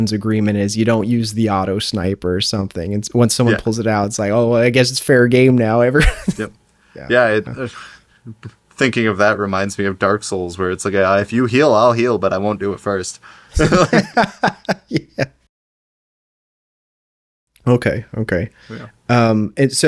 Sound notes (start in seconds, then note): 13.5 laughing